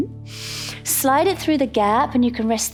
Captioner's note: inhales